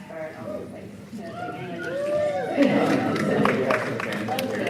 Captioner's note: audience cheering